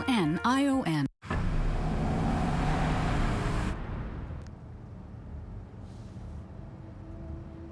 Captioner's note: SFX: Engine sound